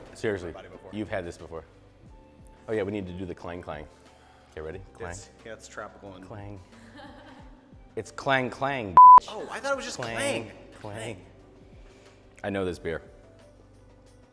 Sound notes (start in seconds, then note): 9.0 beep